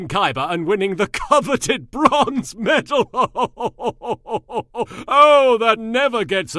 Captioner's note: Yami laughs; Yami continues to laugh